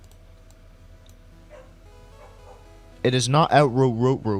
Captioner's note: Cream goes arf arf woof